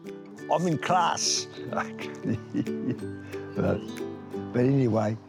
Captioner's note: laughs